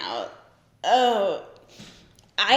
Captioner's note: groans